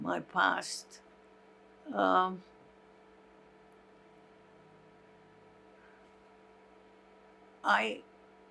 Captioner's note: pauses 6 seconds